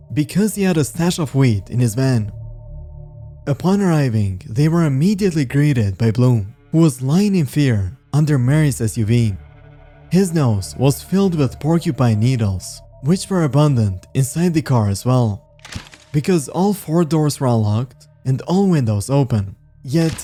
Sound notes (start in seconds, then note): 15.6 camera shutter